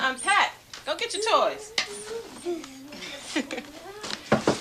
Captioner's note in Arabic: يضحك